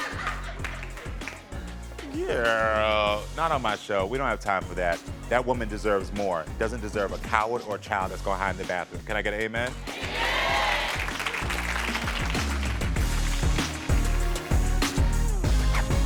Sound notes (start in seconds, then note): 10.1 audience applauds; 13.3 soft music